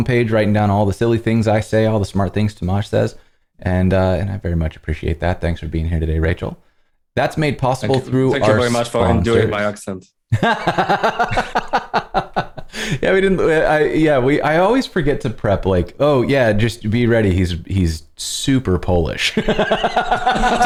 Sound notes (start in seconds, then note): 11.7 laughter